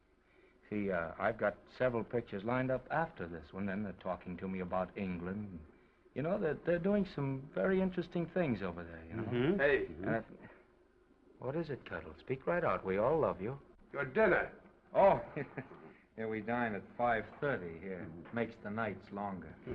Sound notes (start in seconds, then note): 15.0 chuckles; 19.5 Oliver chuckles